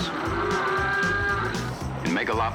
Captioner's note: mooing